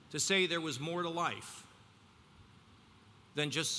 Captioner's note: none